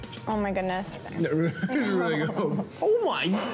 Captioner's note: laughing